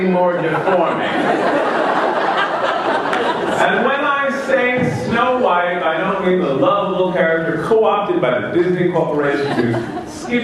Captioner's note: laughter